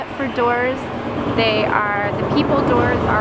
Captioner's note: engine revving